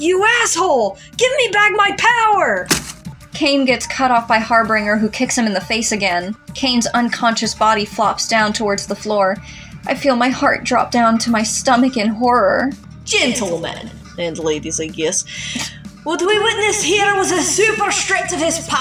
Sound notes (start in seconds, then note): 15.6 snicker